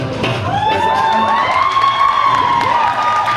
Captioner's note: applause and cheers